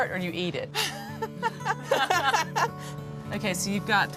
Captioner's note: laughs